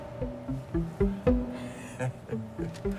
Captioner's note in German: Kichern